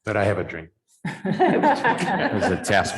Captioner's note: laughter